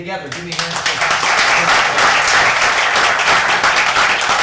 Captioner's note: crowd clapping